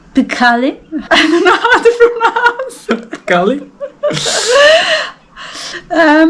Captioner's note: laughing